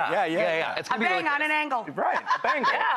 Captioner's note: laughs